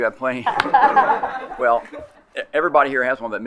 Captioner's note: colleagues laughing